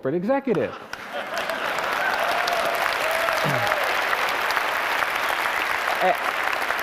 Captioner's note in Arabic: تصفيق